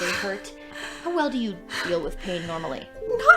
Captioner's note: pained breathing